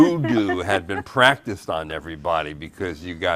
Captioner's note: laughing